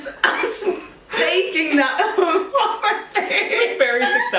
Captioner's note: both laugh; laughs